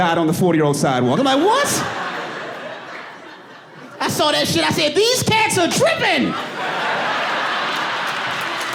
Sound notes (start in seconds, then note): 1.2 audience laughing; 6.2 laughs